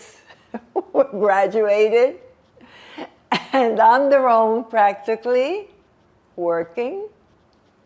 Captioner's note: laughing